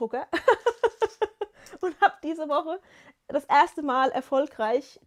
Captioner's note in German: gelächter